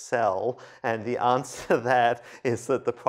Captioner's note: laughter